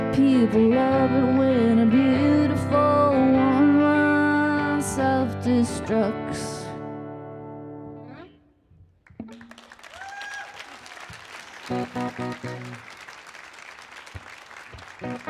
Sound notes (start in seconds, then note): 9.2 audience applauding and cheering; 11.7 light guitar music; 15.0 light guitar music